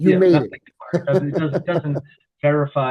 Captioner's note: laughs